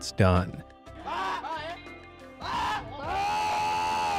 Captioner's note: crowd cheering